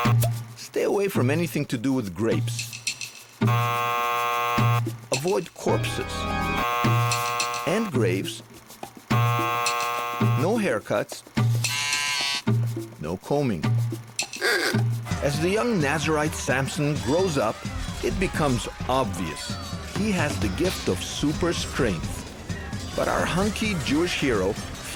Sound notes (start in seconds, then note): 2.7 buzzing; 6.5 buzzing; 9.0 buzzing; 9.1 hair clipper buzzing; 11.5 plastic buzzing